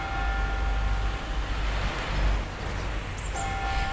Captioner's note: clock tower bell ringing